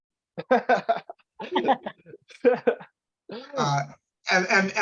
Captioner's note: laughs